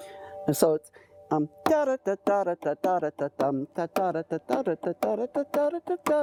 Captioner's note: imitating harp sound